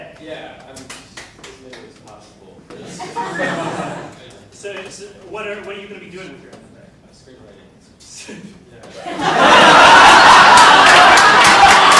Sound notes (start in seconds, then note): 8.0 laughs; 8.9 audience laughing